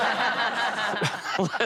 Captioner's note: laughter